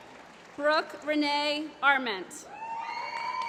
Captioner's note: applause